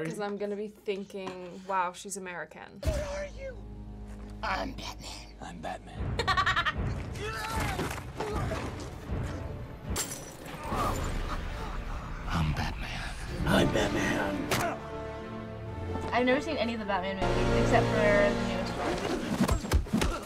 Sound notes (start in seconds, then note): 6.1 laughs; 7.1 man grunts